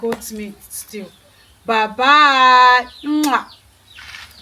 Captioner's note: kisses